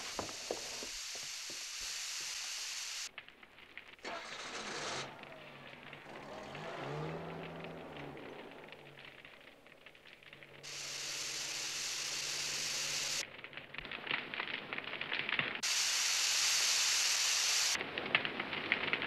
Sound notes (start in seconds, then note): 0.0 gas hissing; 4.1 engine cranking; 8.0 fire crackling; 10.1 gas hissing